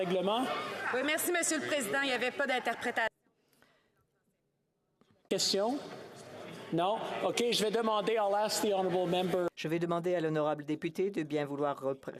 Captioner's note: speaking French